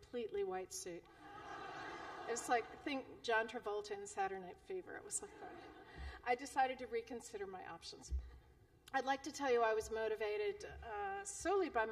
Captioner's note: laughter